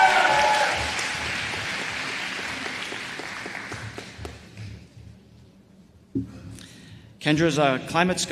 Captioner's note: applause